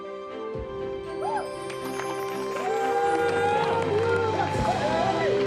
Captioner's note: applause, cheering